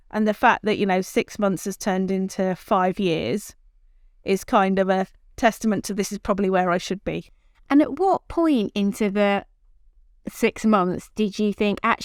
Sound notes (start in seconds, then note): none